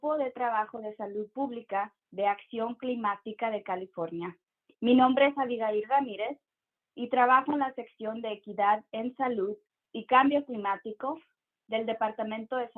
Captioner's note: speaking in Spanish